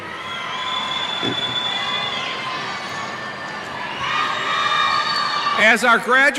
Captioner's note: cheers